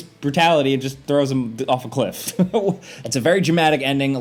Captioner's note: chuckles